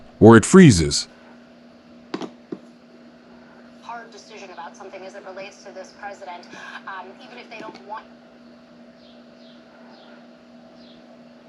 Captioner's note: background talking